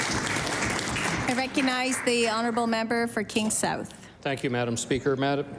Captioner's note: applause